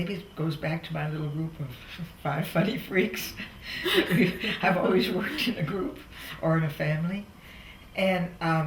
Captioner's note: laughs